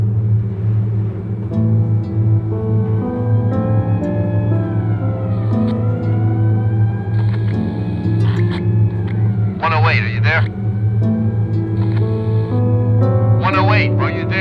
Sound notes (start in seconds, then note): 5.6 siren blaring; 11.4 man on radio